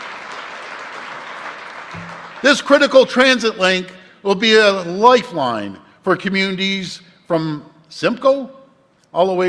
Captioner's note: applause